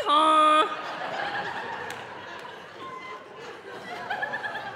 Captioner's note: audience laughing